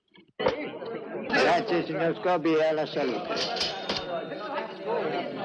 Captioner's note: chattering